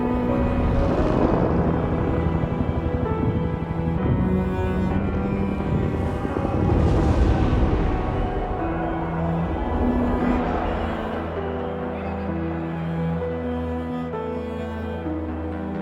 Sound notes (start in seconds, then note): 4.1 explosions pounding; 9.8 shouting